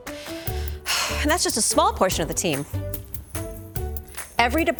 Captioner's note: sighing